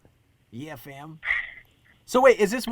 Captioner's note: Gary laughs